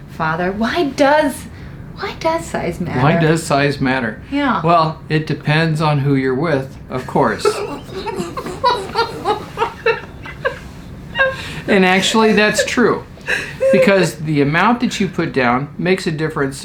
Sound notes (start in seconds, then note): 7.0 laughs